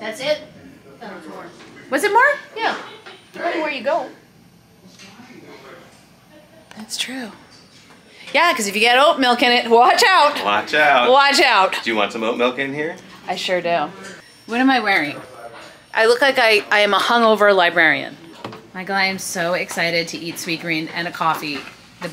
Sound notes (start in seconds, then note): 5.4 people mumbling; 18.8 container thuds